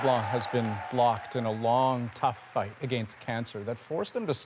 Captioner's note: applause